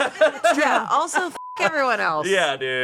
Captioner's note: beep